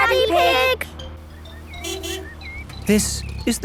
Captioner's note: honking